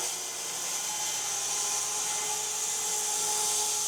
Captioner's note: saw buzzing